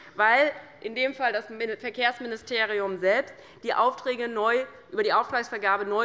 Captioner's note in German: none